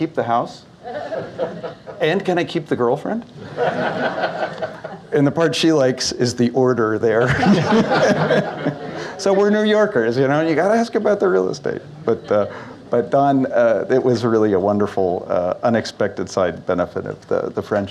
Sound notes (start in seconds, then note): 3.4 laughter; 7.2 audience Laughs; 7.2 laughs